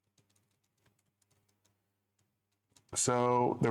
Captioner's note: typing sounds